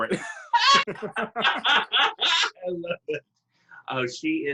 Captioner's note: laughing